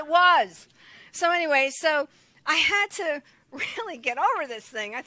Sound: chuckles

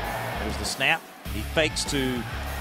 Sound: voiceover

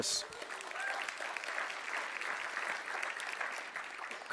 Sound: clapping

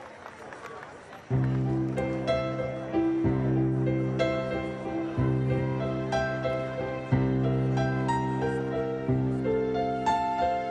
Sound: scattered applause

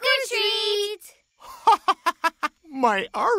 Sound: laughing

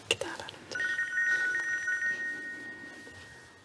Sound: phone ringing

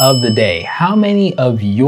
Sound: bell dinging

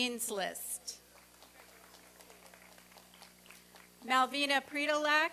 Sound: applause and cheering

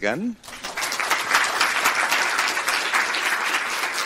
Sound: applauding

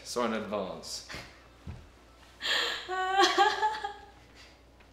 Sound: laughing

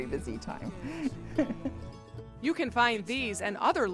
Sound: laughs

